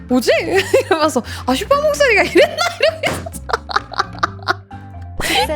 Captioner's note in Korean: 웃음